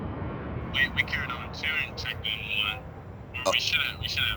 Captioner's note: voice on the phone